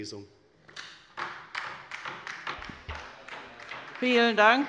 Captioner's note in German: Beifall bei der LINKEN